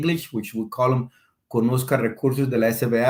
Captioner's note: speaking Spanish